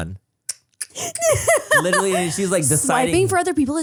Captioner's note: laughs